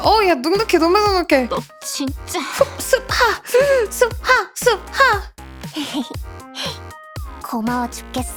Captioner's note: sigh